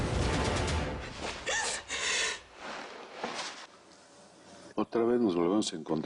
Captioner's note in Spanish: Sollozos